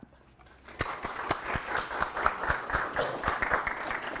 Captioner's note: audience applauding